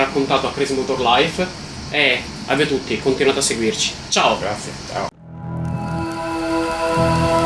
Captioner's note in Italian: Applauso